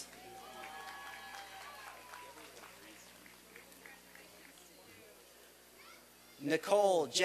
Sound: applause and cheering

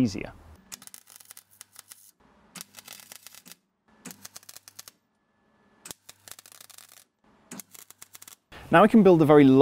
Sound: welding crackle

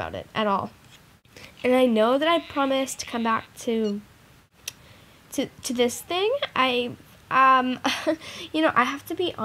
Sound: laughs slightly

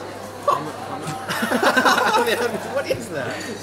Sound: All mockingly laughing at Blake's breakfast

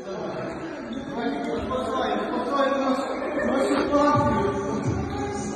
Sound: chatter

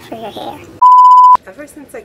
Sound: beep

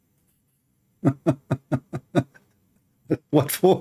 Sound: Ketawa

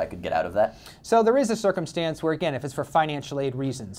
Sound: voiceover

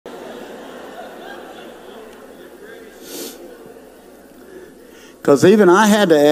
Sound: audience laughs

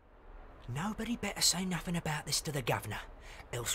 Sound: cockney accent

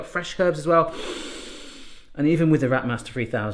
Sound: sniffing

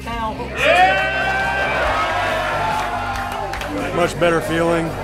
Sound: cheering

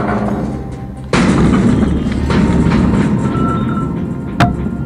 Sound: cage rattles; old western music

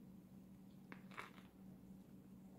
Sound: crunch

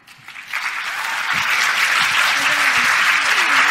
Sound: applause

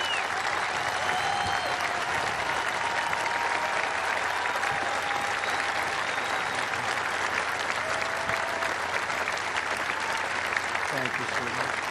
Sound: cheers and applause

